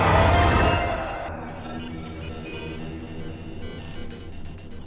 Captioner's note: electronic beeping